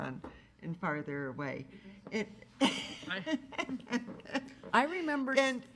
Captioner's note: laughs